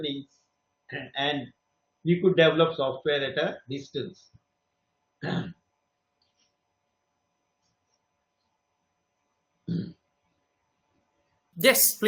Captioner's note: clears throat